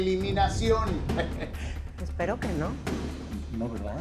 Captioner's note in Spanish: Ríe